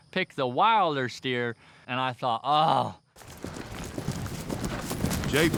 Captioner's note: groans